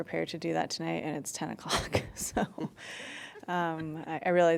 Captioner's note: laughter